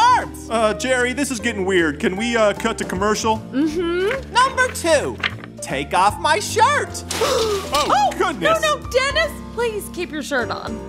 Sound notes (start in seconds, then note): 7.2 soundbite of rustling; 7.7 gasp